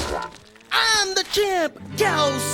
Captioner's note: mooing